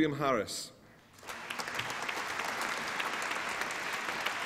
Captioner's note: applause